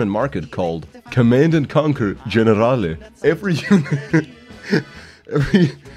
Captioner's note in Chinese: 憋笑